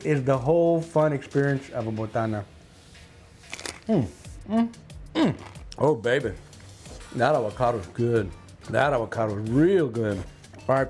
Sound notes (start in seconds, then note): 3.4 chip crunching; 4.8 hums